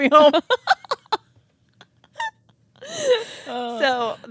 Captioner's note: both laughing